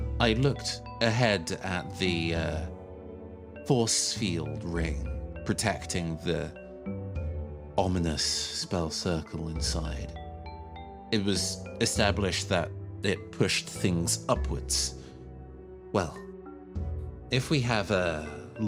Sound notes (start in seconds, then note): none